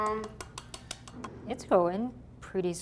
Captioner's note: tapping sounds